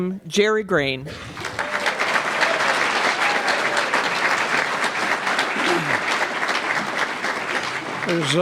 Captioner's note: applause